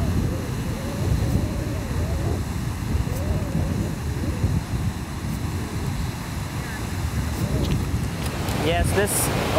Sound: whistling sound of ocean breeze

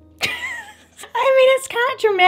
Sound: laughs

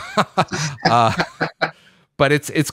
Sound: laughs

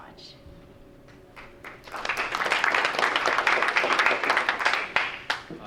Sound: crowd applauds

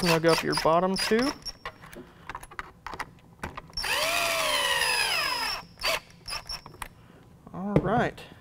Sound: drilling sound

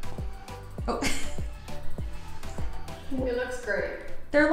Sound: upbeat music; chuckles

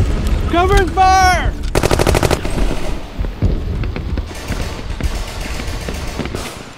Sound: gunshots booming

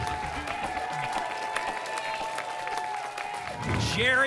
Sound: applause and cheering

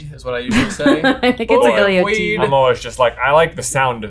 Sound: laughs

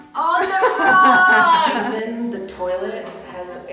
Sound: laughs

